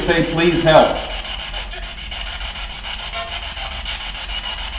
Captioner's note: static buzzing; spirit box talking